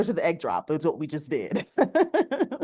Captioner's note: laughs